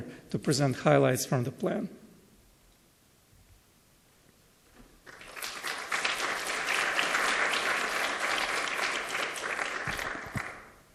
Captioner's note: applause